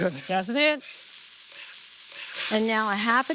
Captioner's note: food sizzling